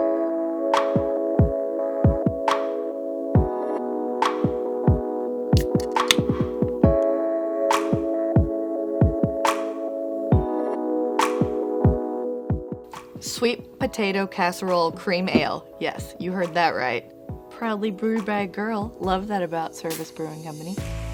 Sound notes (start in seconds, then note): 0.2 lounge music; 5.6 can opening; 5.9 lounge music